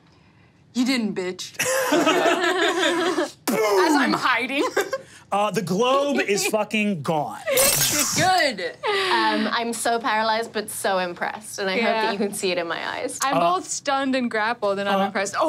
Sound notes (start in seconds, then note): 1.6 group laughing; 7.0 glass shattering